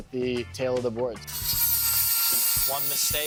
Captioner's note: tool buzzing